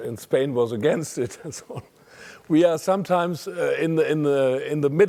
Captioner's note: laugh